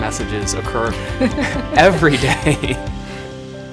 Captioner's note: laughs; chuckles